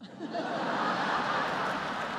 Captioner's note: laughter